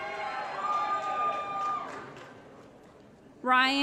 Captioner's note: applause & Cheering